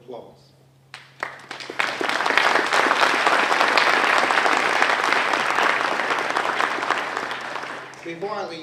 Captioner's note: applause